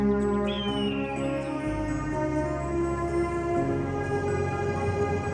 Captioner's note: eagle screeching; calm music